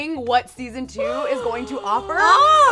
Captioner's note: gasping